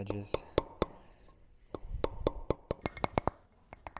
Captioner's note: metal hammering